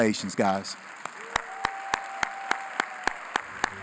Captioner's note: applause